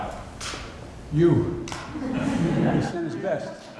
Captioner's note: laughter